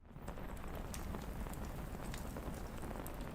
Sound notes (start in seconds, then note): 0.1 fire crackling